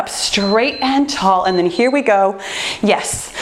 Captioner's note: timer beeps